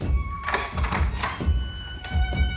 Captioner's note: locks clicking